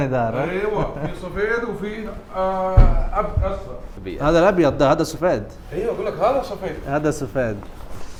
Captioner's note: Arabic